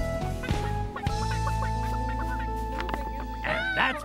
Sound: chickens clucking

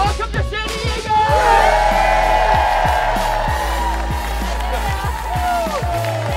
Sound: loud cheering

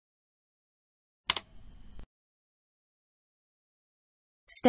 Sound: click sound

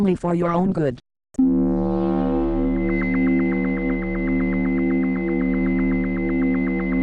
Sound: laser sounds

